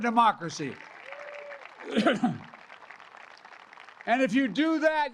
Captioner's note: applause